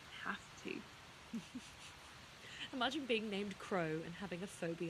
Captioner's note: laughing